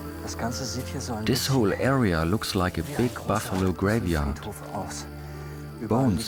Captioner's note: in German